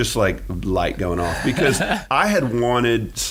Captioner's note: laughing